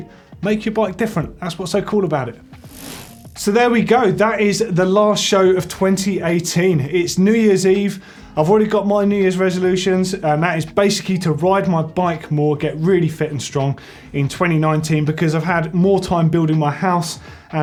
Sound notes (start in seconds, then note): 2.6 bike chain whirring